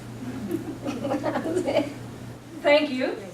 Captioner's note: audience chuckling